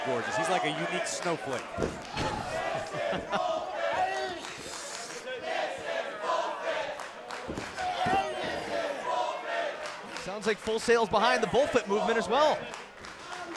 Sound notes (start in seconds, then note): 3.9 laughter